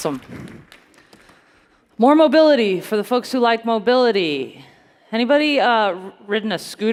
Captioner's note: applause